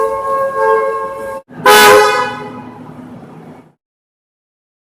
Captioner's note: air Horn